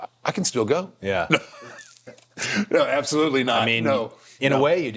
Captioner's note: laughing